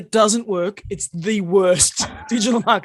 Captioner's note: laughter